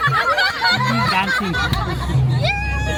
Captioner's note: laugh